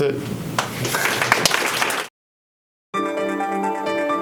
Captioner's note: applause; piano music